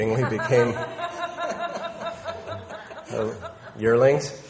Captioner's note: people laughing